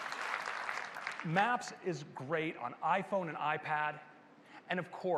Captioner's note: applause